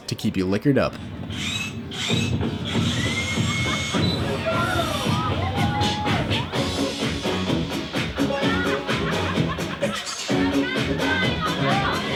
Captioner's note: music and drilling noises